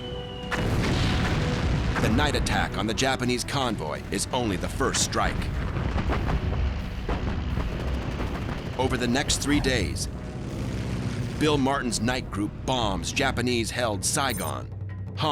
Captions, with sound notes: [explosions] The night attack on the Japanese convoy is only the first strike. [gunfire] Over the next three days, Bill Martin's night group bombs Japanese-held Saigon, Hong Kong,